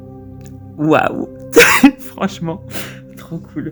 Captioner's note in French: haha